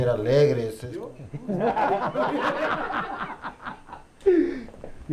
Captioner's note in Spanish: risas